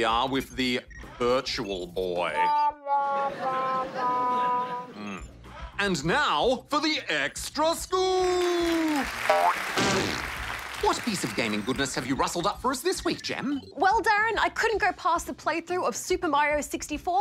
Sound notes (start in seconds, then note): 3.1 laughter; 8.2 applause